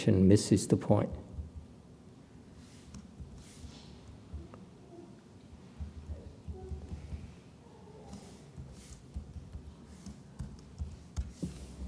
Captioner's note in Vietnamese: typing